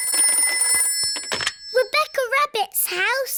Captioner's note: phone rings